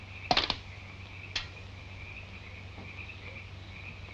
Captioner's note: stone thudding